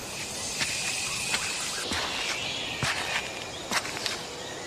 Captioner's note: animal panting